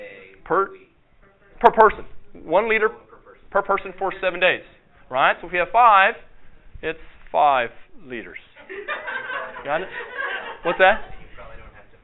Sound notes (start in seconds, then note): 8.6 audience laughter